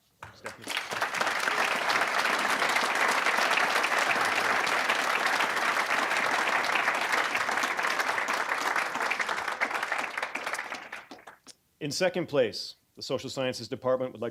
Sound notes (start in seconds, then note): 1.1 applause